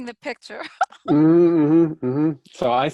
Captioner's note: laughs